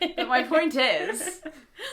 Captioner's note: laughs